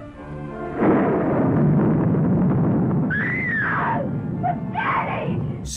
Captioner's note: thunder crashing; screaming